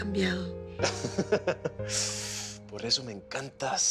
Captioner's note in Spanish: Risas